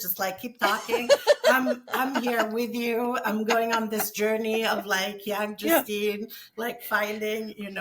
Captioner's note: both laugh